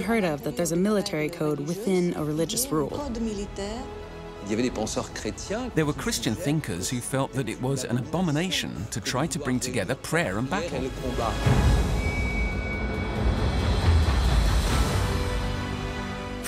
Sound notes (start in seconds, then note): 4.3 speaking French; 12.5 epic music playing